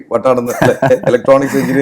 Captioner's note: laughs